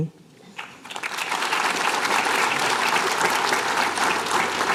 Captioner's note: applause